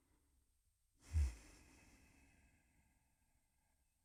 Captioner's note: exhaling